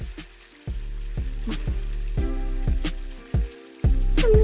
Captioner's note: splashing